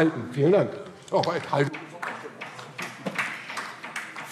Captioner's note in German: Beifall DIE LINKE